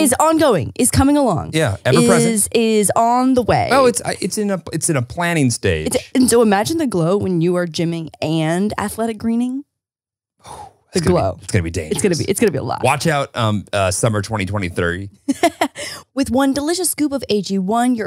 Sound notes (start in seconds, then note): 10.4 sighs; 15.2 chuckles